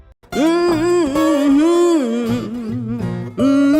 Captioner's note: singer humming